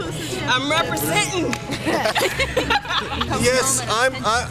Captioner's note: laughter